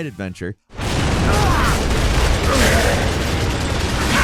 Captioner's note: guns firing